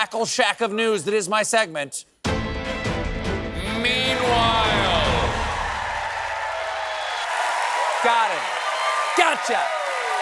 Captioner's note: cheers and applause